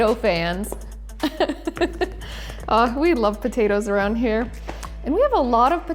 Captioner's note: laughs